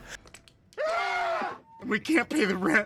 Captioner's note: scream in unison